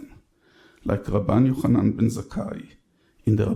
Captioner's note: speaks in foreign language